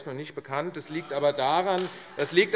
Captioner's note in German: Beifall AfD